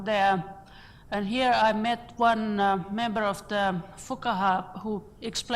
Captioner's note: foreign words